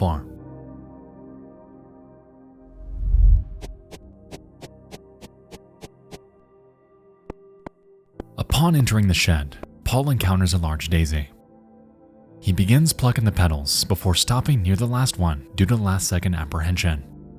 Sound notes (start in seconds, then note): 0.0 mysterious music; 4.3 shuffling sound